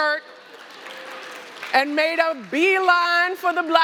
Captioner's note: applause